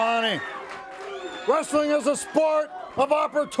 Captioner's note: crowd cheering